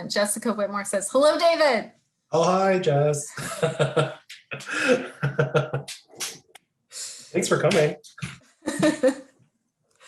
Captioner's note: laughing; both laughing